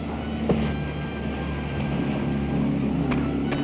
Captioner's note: blows thud